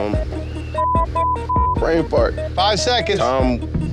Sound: beeping

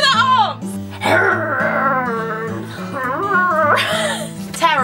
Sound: growls; laughs

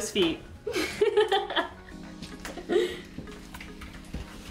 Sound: laughing

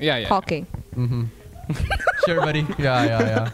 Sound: laughs

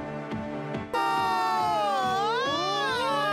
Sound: screaming

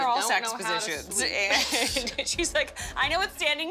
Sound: laughter

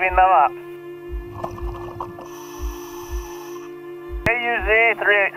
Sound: breathing

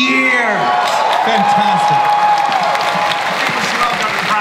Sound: audience cheering

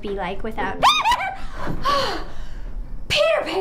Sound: screaming

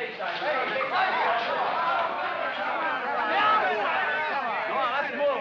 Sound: excited chatter

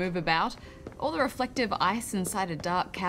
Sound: footsteps crunch

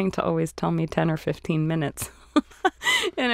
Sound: laughing

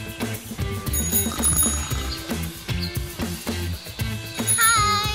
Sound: bike bell rings

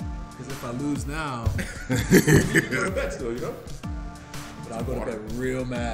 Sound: laugh

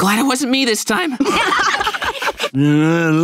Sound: laughing

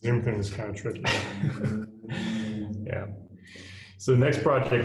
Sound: laughs

